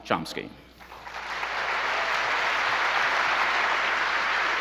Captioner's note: audience applauds